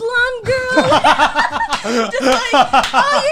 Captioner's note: laughing